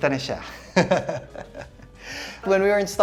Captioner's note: laughs